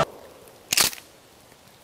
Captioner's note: gun cocks